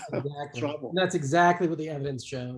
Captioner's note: calm Voice